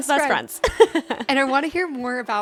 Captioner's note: laughs